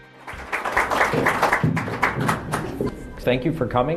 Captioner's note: applause